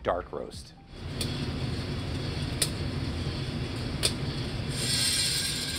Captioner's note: coffee roaster whirs